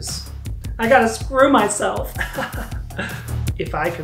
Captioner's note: chuckles